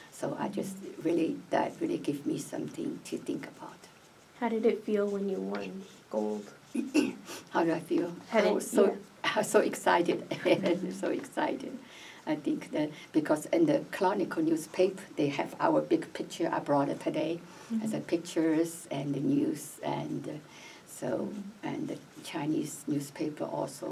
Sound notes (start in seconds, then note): 10.2 laughs